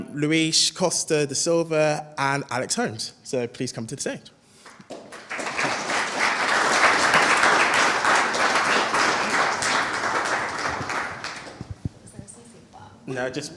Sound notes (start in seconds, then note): 4.6 audience applauds